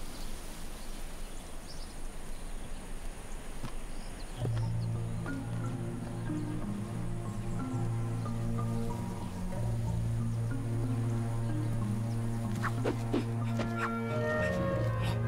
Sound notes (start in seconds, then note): 4.8 somber orchestral music; 12.5 wooshing